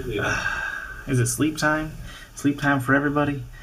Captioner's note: sighs